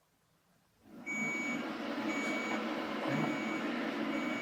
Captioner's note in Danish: Hørbare bip fra maskinen